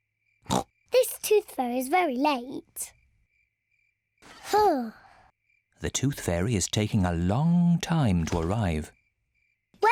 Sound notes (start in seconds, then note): 0.5 oinks